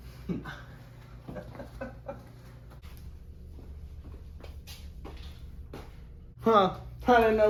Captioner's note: they snicker